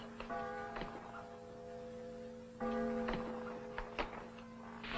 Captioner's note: church bell clanging nearby